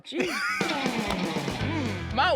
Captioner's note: laughter